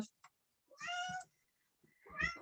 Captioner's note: meowing